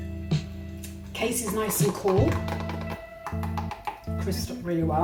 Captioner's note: taps